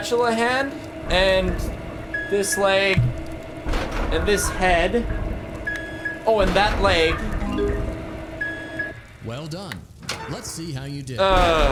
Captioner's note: groans